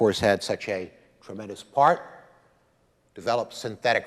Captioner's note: none